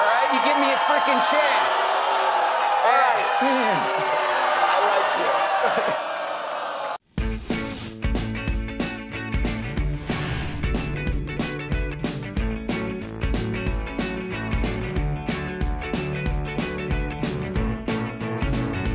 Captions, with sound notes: You give me a freaking chance. [booing] All right. I like you.